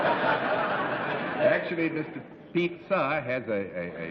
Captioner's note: laughter